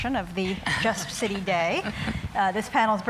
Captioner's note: laughter